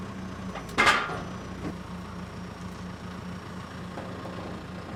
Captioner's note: wood falling on metal